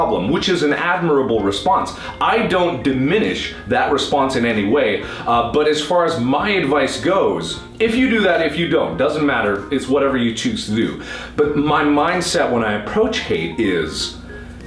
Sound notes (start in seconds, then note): none